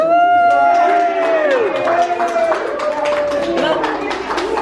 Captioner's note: cheering; clapping